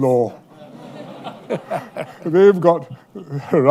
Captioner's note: laughter